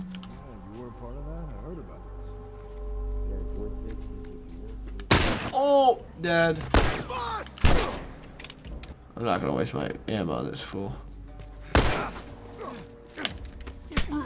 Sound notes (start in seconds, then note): 6.8 yells, groans; 11.0 in game: grunting